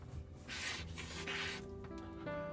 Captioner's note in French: reniflements